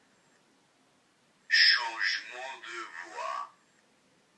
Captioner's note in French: voix humaine